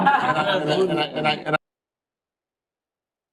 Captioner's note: laughter